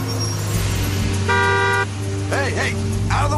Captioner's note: honking